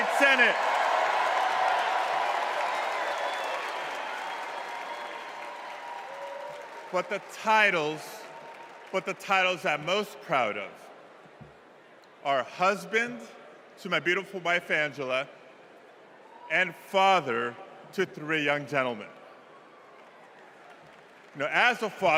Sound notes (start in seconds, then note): 3.9 cheers and applause